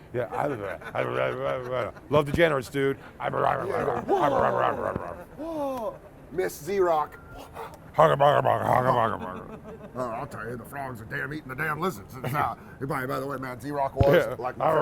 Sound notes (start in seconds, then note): 3.4 grunting; 8.6 grunting